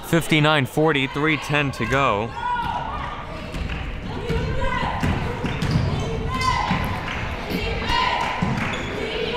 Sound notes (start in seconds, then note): 4.0 ball pounding; 7.5 cheering